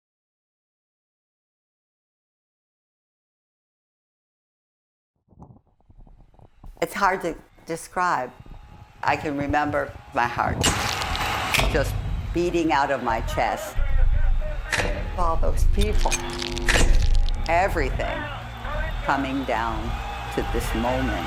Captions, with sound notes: [Crackling] It's hard to describe. I can remember my heart... [Crowd roaring] ...just beating out of my chest. All those people. Everything coming down to this moment.